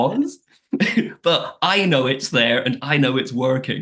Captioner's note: laughs